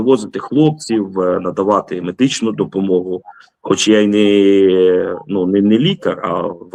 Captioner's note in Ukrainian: прочищення горла